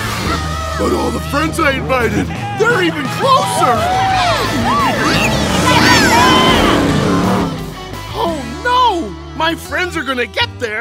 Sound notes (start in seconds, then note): 3.8 cheering